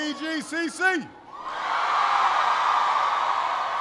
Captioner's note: applause